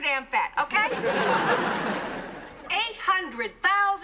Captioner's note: laughter